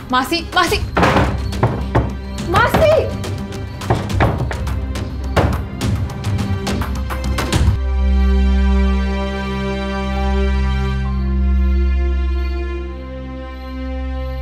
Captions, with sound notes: - Aunt! Aunt! - [Door closes] [Door knocking] Aunt! [Knocking]